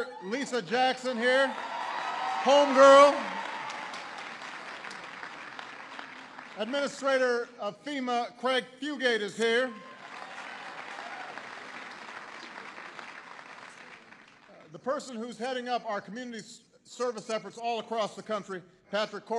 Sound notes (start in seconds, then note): 0.0 applause; 4.3 applause